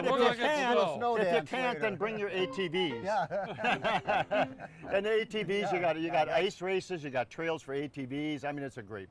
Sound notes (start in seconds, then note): 2.0 upbeat piano music; 2.9 all laughing